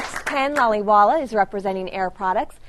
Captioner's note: applause